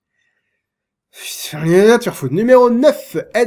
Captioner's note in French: marmonne